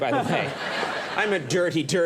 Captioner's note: audience laughing